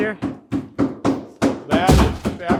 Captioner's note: tool knocking